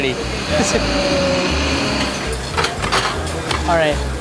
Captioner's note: mixer blending